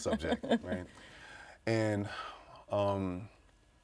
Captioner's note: laughing